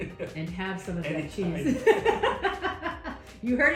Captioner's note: laughing; laughs